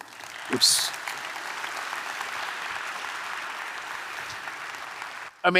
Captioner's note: audience applauding